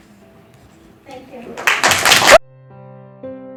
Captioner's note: applause